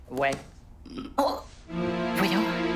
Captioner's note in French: gargouillis